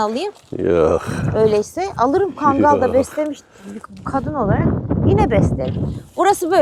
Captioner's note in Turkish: homurdanır